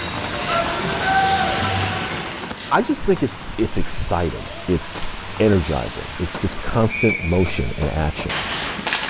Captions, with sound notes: (players yell) I just think it's exciting, it's energizing, it's just constant motion and action.